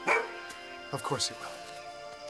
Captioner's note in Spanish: ladrido